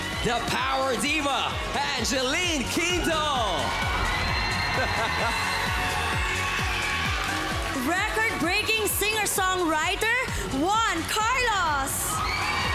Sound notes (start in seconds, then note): 4.2 applause, cheering; 4.7 laughing